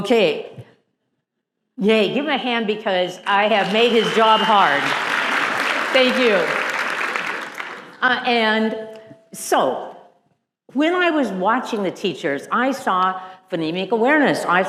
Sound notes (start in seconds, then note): 5.2 audience clapping